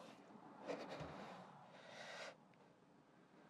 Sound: exhales; inhales

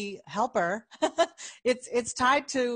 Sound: laughing

